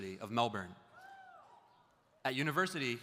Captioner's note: audience member cheers